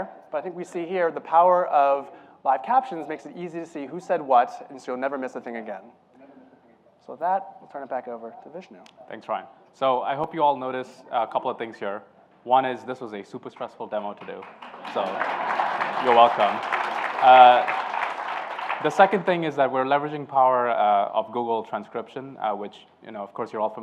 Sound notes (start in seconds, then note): 14.2 applause